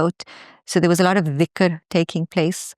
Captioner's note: speaks in foreign language